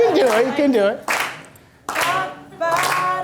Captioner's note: clapping